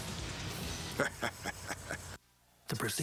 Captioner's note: Hulk chuckling